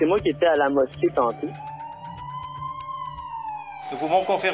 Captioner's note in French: sirène